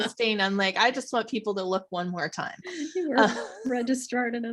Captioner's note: lauging